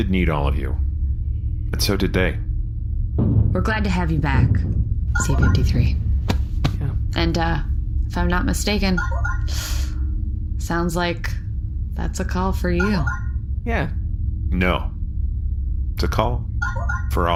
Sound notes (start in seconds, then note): 5.1 communicator chimes